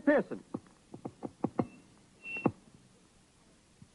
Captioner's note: microphone feedback